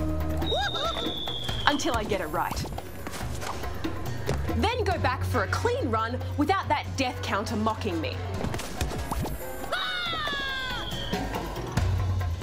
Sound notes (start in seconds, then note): 0.1 whimpers; 9.7 screams